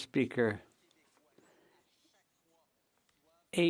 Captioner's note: speaking French